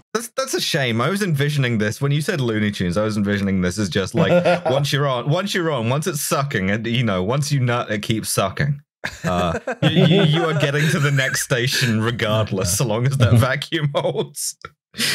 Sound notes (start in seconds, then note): 9.0 laughter